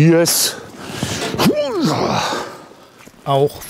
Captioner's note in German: Angestrengtes Ächzen